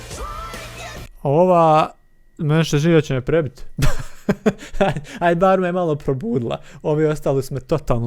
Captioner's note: laughter